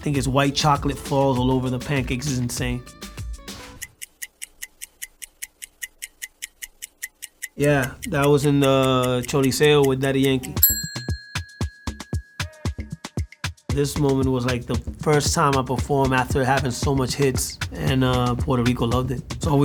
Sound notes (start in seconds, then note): 3.8 ticking; 8.8 spanish